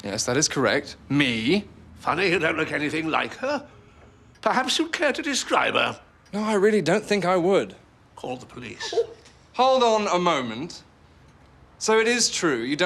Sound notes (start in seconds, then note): 9.5 Vera gasps